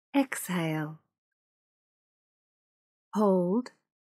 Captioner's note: automated voice